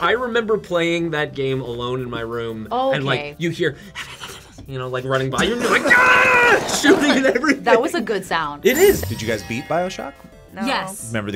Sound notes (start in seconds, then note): 4.4 whispers; 5.4 laughs; 5.5 screams